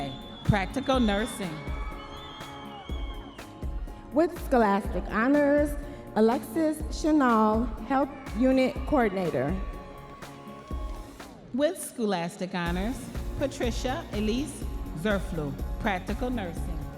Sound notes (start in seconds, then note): 3.0 audience members cheering